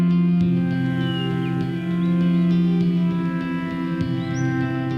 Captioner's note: birds chirp